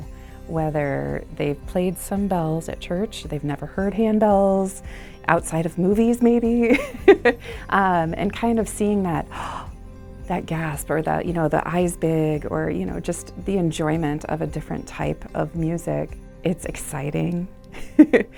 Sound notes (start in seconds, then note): 6.7 laughs; 17.4 laughs